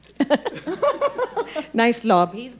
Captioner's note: group laughing